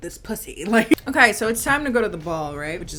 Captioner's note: chuckling